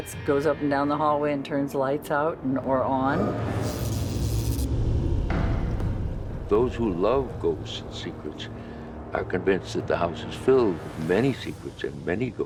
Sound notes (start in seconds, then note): 3.5 electrical zapping